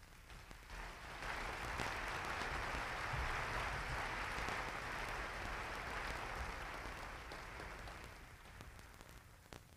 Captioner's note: applause